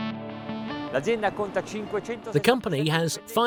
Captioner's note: speaking foreign language